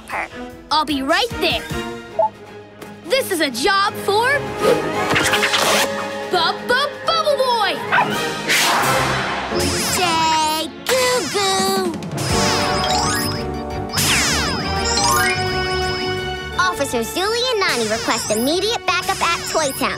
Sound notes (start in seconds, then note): 7.9 barking